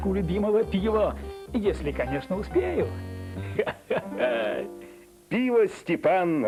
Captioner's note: laughter